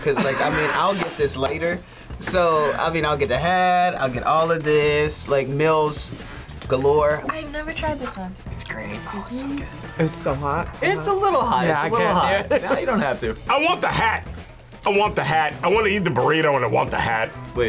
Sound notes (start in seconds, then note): 9.3 whispers; 12.3 laughs